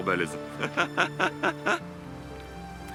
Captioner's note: laughs